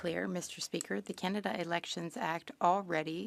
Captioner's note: speaking French